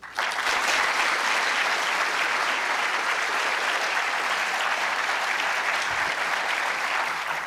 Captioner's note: applause